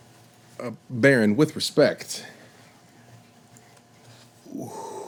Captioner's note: sighs